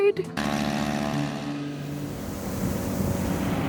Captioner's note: aeroplane propellors whirring; boat motor whirs